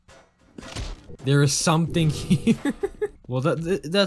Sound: laughing

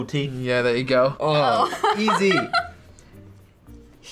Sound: laughs

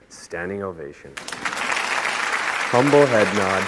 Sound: applause

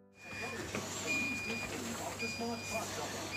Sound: beeping

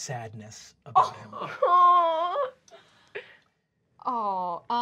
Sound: empathetic sobbing

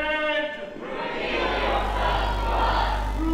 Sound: Static

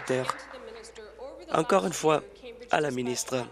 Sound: applause

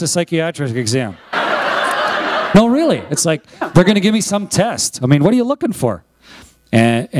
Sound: laughter

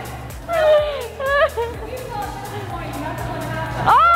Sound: laughs

